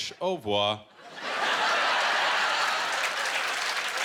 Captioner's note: laughter